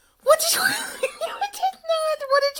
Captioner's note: laughs